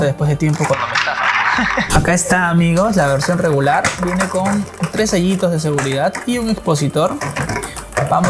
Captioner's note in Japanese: ふふ